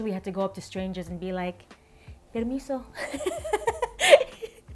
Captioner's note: laughs